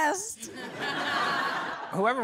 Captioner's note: crowd laughs